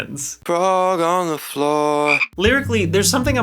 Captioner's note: frog ribbits